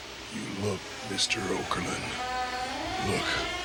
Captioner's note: coffin creaking